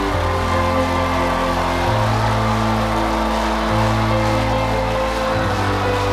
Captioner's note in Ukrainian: оплески